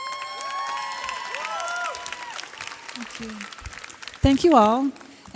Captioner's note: graduates cheer